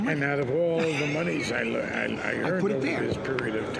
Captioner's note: laughing